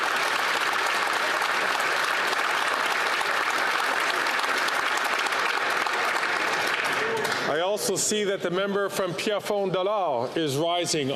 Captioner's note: applause